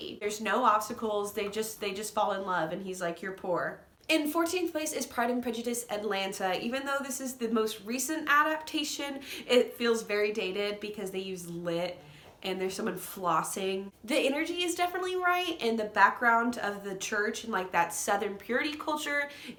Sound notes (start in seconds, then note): none